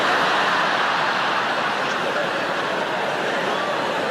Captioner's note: audience laugh